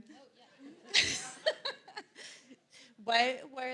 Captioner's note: laughs